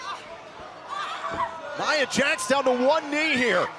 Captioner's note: crowd cheering